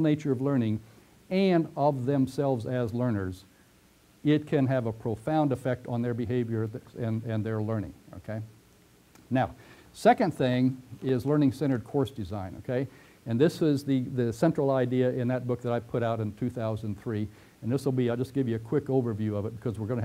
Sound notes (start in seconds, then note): 8.9 pause